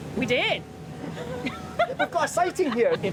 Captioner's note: both laughing